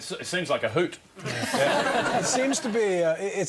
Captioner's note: audience laughs